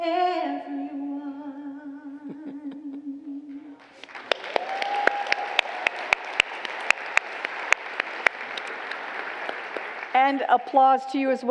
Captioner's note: congregants applaud